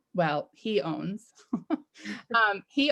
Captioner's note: chuckles